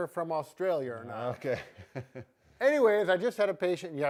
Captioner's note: chuckles